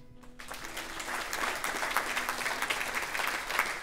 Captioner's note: applause